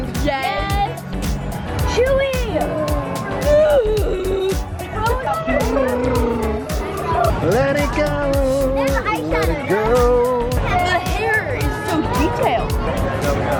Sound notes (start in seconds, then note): 3.4 groaning